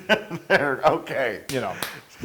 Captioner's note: laugh